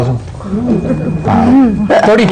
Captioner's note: laughs